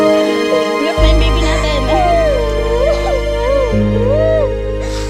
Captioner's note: crying; dramatic music